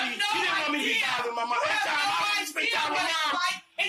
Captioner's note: yelling at once